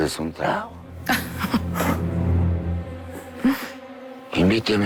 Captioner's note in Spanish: Isabel ríe